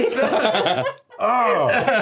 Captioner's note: everyone laughing